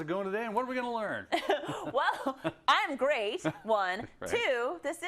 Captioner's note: laugh